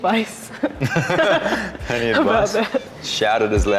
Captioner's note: Sali and Luka laughs genuinely